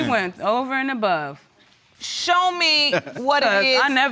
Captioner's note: chuckles